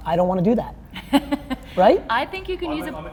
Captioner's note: laughing